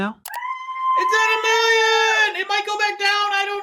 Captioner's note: cheering